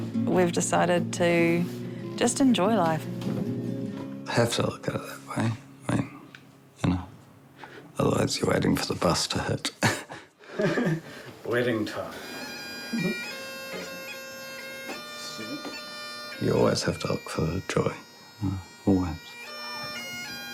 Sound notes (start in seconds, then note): 10.4 chuckles; 12.8 laughs